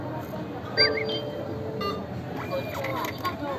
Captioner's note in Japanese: nanacoの決済音